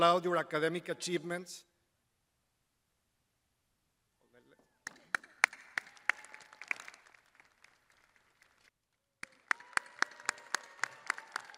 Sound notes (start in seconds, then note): 1.0 crowd applauding